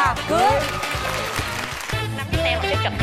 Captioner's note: claps